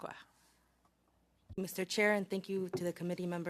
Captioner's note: speaking French